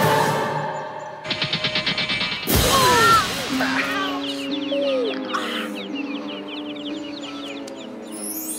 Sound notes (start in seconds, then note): 3.5 moaning